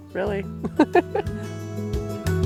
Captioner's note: chuckle